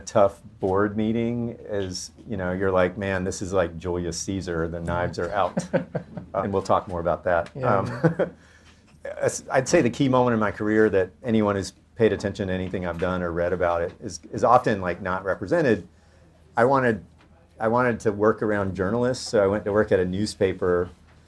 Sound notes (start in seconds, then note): 5.2 laughs